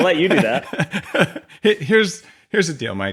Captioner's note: laughs